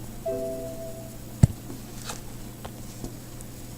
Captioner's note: computer dings